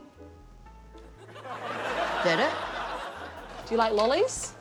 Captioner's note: laughter